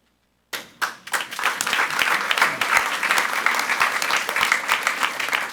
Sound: audience applauds

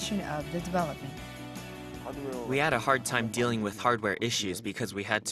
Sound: Korean

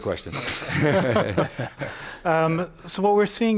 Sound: laughter

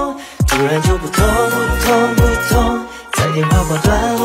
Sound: sound of heartbeats

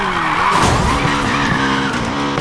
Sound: crash

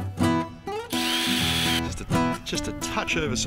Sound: drill whirring

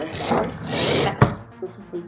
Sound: bang

